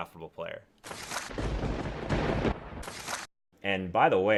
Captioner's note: lightning striking